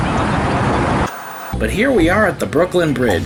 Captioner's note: white noise scratching; white noise scratching